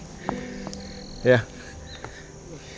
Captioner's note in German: schweres atmen